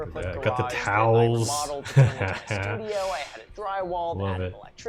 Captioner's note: laughs